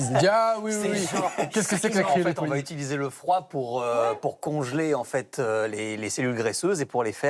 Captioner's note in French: rires